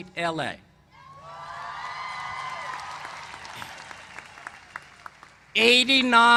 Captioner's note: cheers and applause